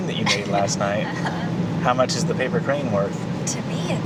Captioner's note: laughs